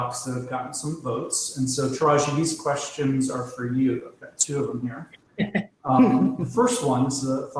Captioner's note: laugher